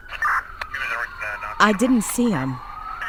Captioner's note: police radio beeping; police indistinctly speak over radio